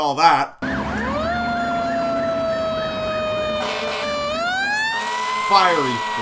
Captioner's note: sirens and horns heard